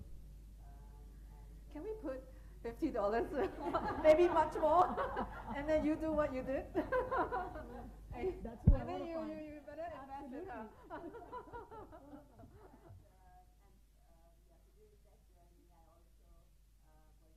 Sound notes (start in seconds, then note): 6.3 laughing; 13.2 audio cuts out